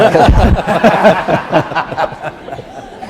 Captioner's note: laughter